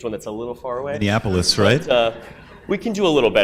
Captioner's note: audience laughs